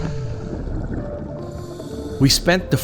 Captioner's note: water gurgles; air hisses